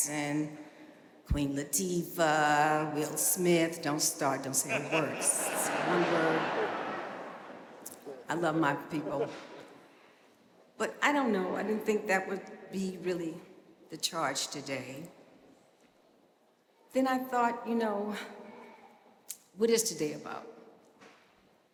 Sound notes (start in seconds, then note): 4.6 audience laughing